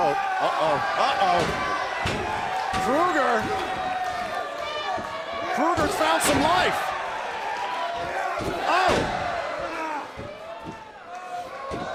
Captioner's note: crowd cheering